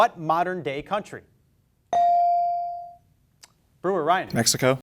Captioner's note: beep